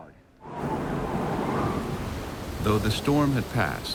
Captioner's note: heavy winds whipping